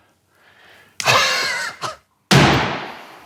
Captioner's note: wheezes